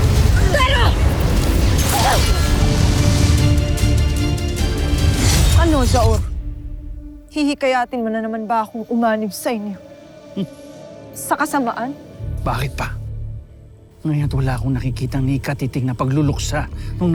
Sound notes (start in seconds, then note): 0.0 evil energy whoosh & crackle; 1.6 groans; 1.6 weapon zaps, then clangs